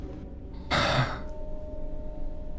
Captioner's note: sigh